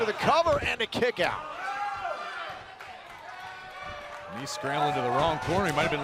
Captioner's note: crowd chatter